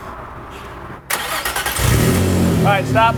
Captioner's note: car engine starts